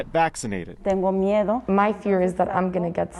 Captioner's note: speaks in Spanish